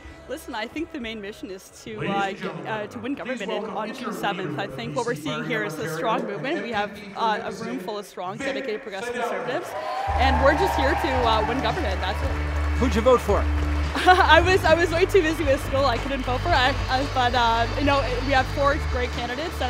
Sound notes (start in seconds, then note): 13.9 chuckling